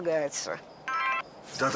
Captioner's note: phone rings